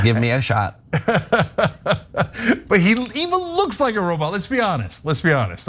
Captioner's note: laugh